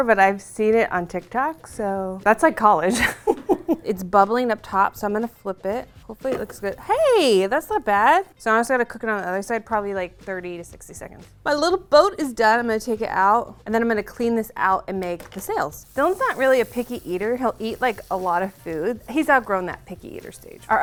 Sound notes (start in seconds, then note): 2.8 laughing